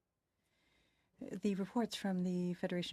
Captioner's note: speaking French